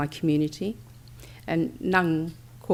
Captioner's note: foreign language